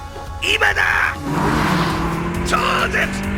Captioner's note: gran turismo braking intensifies